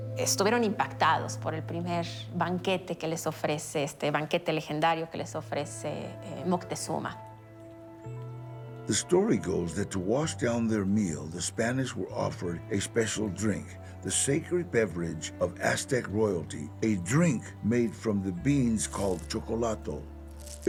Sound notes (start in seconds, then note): 8.9 in English